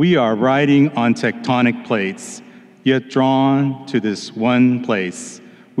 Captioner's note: none